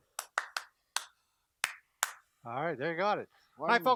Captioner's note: clapping a rhythm; clapping a response